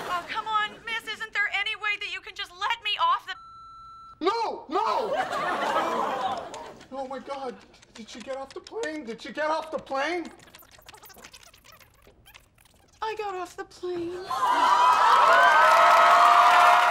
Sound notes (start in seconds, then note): 3.2 beeping; 5.0 laughing and gasping; 14.2 audience cheering